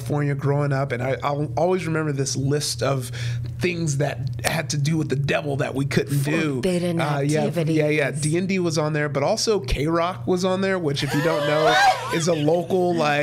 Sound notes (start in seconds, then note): 11.0 all laughing